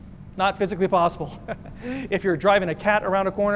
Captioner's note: chuckles